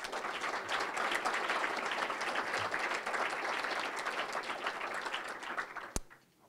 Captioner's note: applause